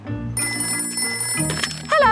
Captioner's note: ringing